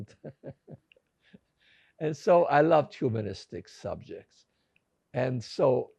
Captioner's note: laughing